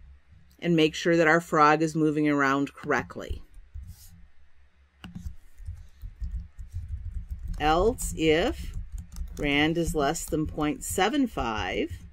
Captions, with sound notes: correctly. Else if rand is less than .75 frog.move up and system out print line [typing] and I notice